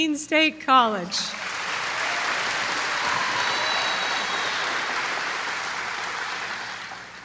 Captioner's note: applause